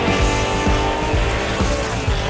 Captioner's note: engine racing